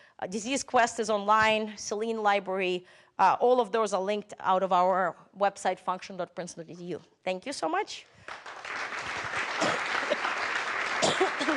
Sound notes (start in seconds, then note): 8.2 applause